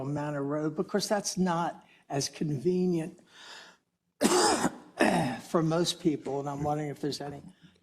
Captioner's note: cough